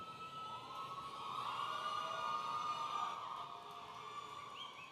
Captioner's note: audience cheering